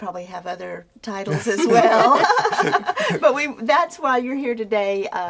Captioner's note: laughing